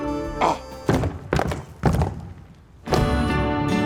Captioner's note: Sasquatch grunts